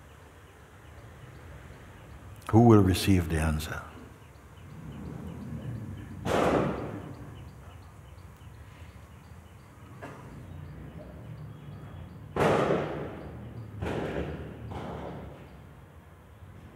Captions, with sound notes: Who will receive the answer? [loud banging sounds from outside]